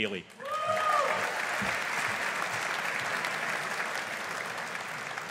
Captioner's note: audience applauding